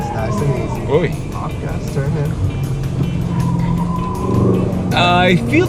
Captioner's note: engine revving